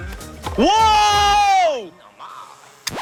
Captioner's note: shouting in surprise